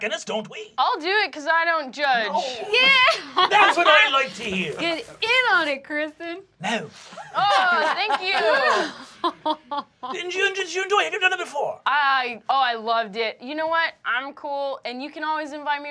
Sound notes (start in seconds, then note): 6.5 snorts; 6.7 laughing